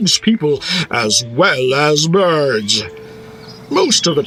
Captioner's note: bird tweets